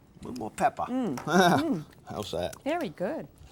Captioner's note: chuckles